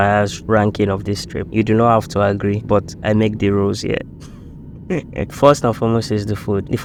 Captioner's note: laughs